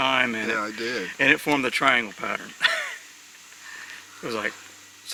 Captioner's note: laughs